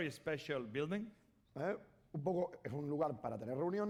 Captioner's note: speaking spanish